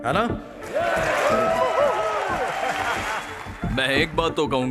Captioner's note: cheers and applause